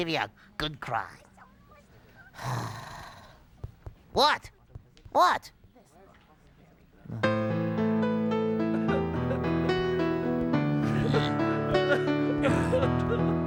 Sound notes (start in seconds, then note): 2.4 sighs with exasperation; 7.0 patrons weeping